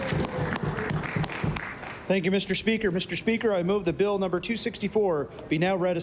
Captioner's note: applause